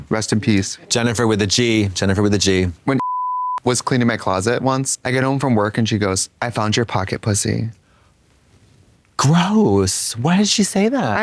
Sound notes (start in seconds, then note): 3.0 beep